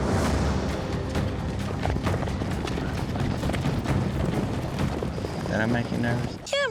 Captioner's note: fast hoofbes